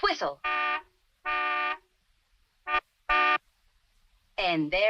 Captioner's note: car horn blaring